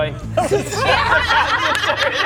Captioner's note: laughs